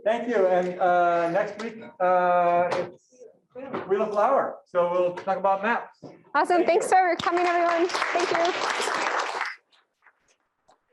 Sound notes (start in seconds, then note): 6.8 room applauds